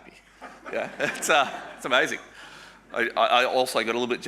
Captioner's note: audience laughing